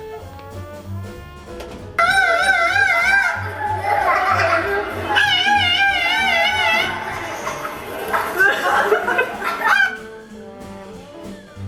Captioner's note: screaming cockatoo; screaming husky